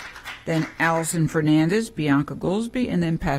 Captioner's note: applause